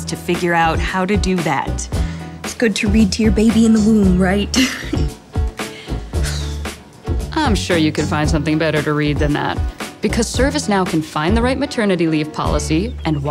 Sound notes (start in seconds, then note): 5.5 sighing; 5.8 laughing